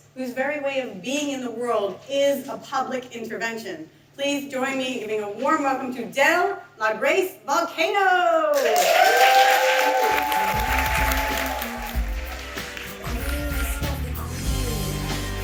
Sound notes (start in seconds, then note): 8.5 audience cheering and applauding